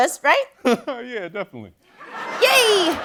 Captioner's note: laughs